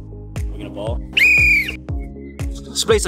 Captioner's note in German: pfeifen